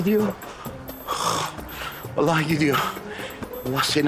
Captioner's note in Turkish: Nefes sesi